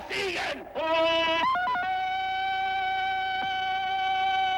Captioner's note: yelling in german; tarzan yells